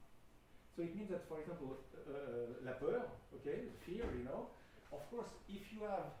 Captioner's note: speaking french